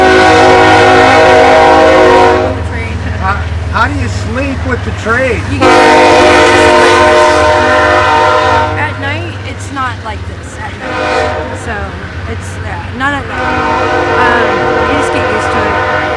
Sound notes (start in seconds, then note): 0.0 train horn blasting; 5.5 train horn blasting